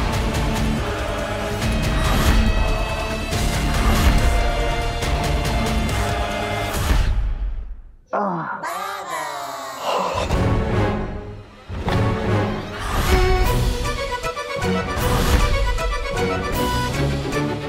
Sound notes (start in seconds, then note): 8.1 effort grunts; 11.6 funny music playing